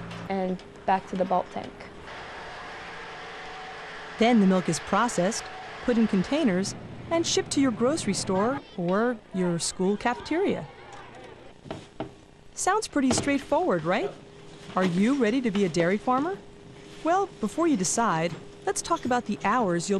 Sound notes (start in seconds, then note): 10.3 chattering